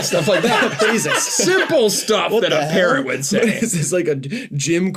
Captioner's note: laughter